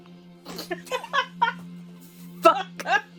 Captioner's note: laughter